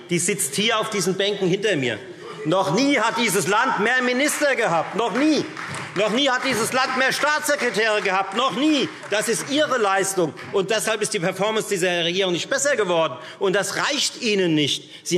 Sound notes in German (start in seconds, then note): 7.5 Beifall